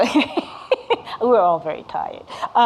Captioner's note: laughing